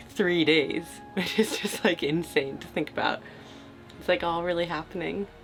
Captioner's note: laughing